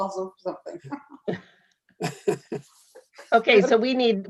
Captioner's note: panel members laughing